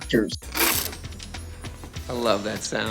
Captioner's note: velcro ripping